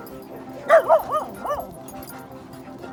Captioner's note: Rosie Barking